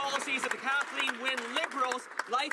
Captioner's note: some Applause